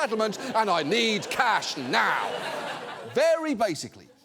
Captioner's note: audience laughs